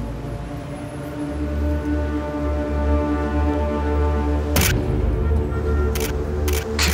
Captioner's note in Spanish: Sonido de cámara